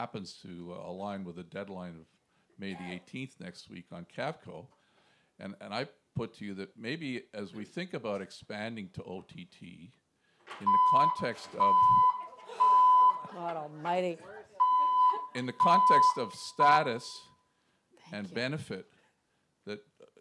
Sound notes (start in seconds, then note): 10.9 alarm riging; 15.9 voiceover